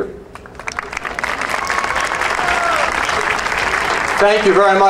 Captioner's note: audience cheering and applauding